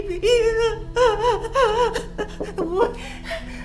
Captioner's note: Caroline panting; door knocking